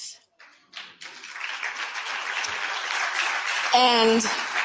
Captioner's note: audience applauding